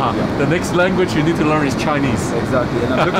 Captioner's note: laughs